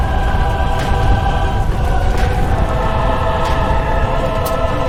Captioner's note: footsteps thudding